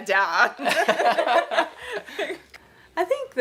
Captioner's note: laughter